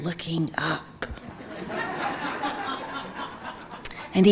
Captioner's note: audience laughing